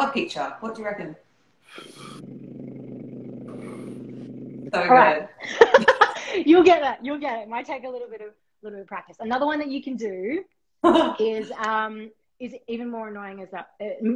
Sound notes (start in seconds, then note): 2.0 buzzing sound; 5.4 laughter